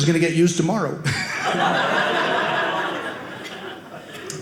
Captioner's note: audience laughing